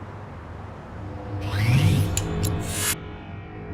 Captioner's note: powering up